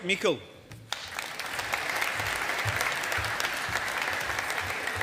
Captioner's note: audience applauding